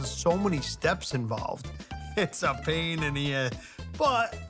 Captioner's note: laughs